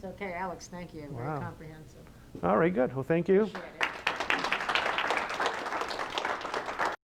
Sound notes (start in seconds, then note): 3.6 applause